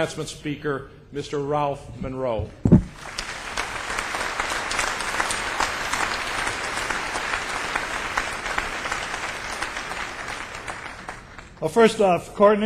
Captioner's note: clapping